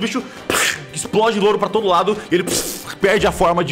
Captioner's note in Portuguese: pff; pow